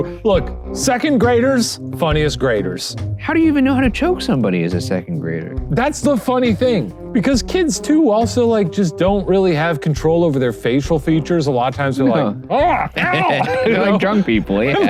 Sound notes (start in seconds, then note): 12.1 groaning